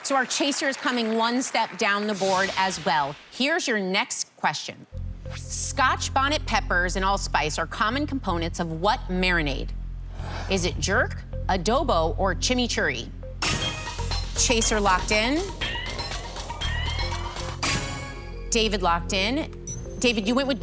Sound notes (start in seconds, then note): 14.0 chime, ticking; 18.1 chime